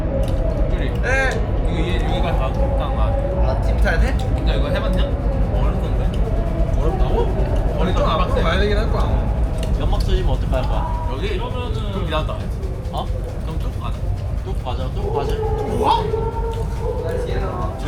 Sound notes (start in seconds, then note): 6.8 BuZz